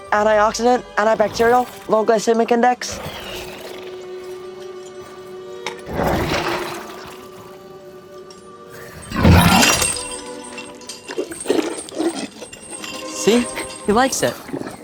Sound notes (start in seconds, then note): 2.8 zombie chuffing; 10.9 zombie slurping